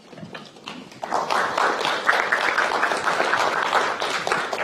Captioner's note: applauding